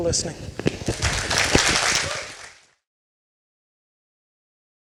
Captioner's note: audience applauding